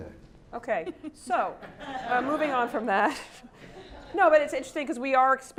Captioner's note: laugh